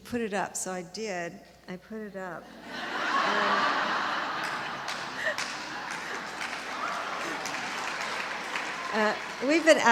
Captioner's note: laughter and applause